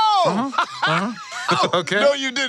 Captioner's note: laughs